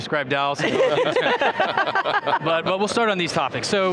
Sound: group laughs

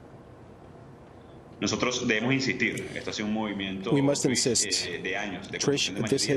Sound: speaking spanish

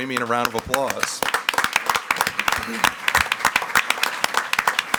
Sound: audience clapping

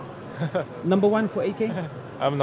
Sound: laughing; laughs

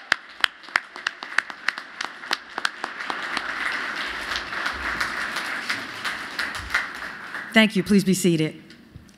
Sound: applause

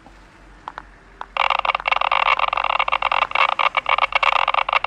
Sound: ooze detector noise increases

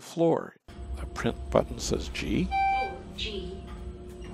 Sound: elevator beeps and says level G

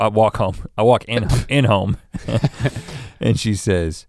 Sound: chuckles

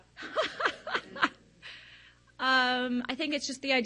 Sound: laughs

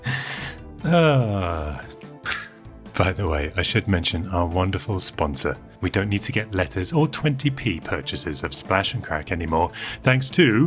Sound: laughs

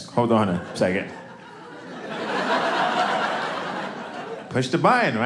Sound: audience laughing

